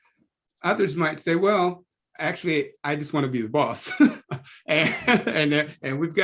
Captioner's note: laugh